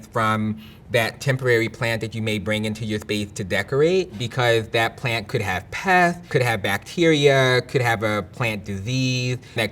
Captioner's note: none